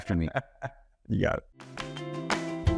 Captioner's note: laughing; upbeat music